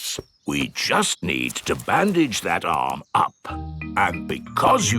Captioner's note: in teddy's voice; in normal voice